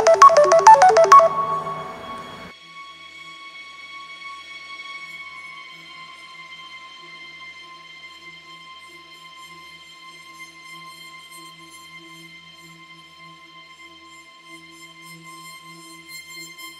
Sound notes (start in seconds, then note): 1.0 snoozes off Alarm